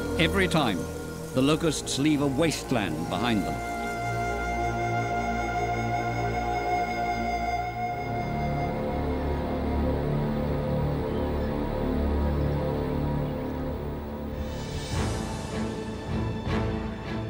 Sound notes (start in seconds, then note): 8.6 deep thrumming; 14.9 dramatic music